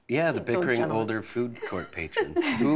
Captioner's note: laughter